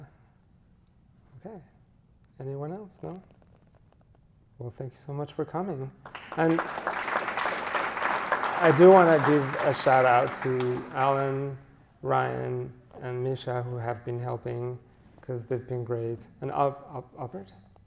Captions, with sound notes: Yeah. Okay. Anyone else, no? Well thank you so much for coming. (audience applauds) I do wanna give a shout out to Alan, Ryan, and Mischa who have been helping, cuz they've been great. And Albert?